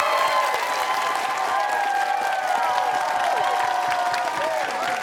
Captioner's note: cheers and applause